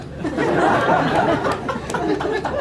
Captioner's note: laughter